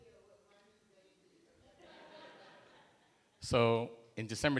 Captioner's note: laughter